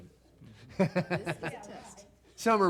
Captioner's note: laughs